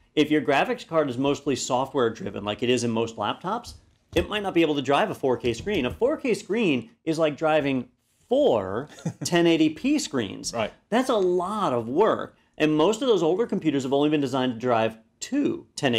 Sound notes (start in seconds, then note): 8.9 laugh